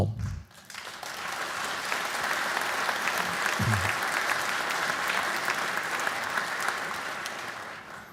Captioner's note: applause